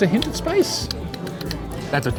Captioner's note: tisking